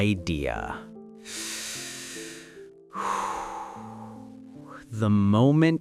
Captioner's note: deep breath